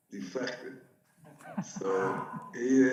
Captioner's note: audience laughs